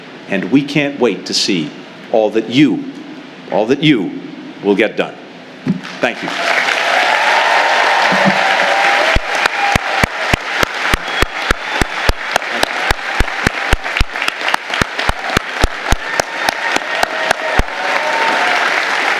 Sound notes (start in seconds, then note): 5.8 applause